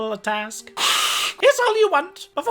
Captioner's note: hisses